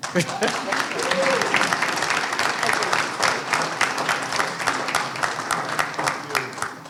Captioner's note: applause